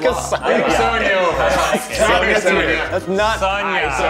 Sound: everyone chattering

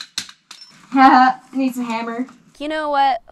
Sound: laughs

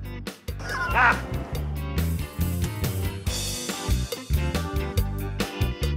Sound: laughs

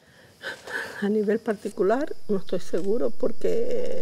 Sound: sigh

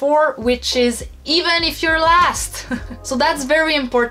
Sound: laughs

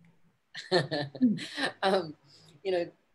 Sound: laughing

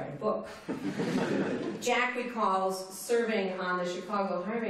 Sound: laughter

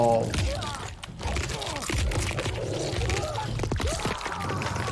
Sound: fighter screams

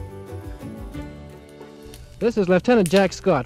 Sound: man's voice

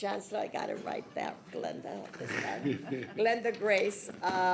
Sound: people laughing

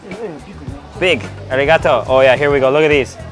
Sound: speaks in foreign language

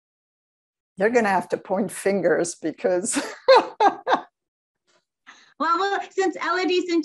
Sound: laughs

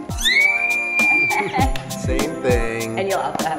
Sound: screams

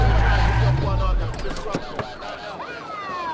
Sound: tires screeching

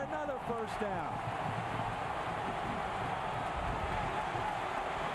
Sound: cheering, applause

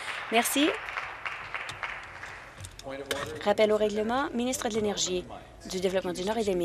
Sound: applause

